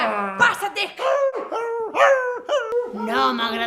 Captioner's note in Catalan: Gemecs de gos